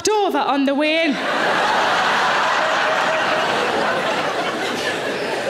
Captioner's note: audience laughing